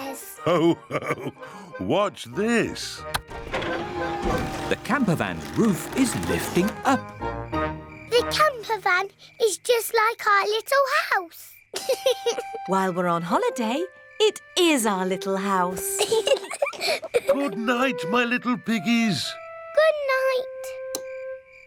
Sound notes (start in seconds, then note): 11.7 george laughs; 15.7 both laugh